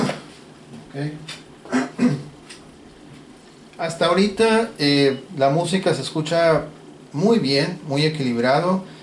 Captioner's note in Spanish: carraspeo